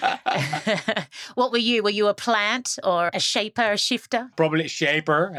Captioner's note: both laugh